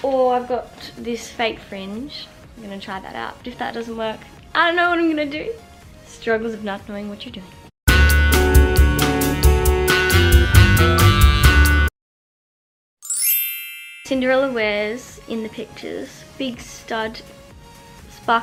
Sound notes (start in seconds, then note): 7.9 elevator music; 13.0 chimes